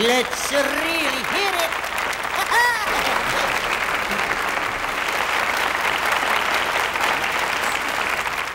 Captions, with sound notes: - LET'S REALLY HEAR IT [AUDIENCE APPLAUDS]